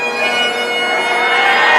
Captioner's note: cheering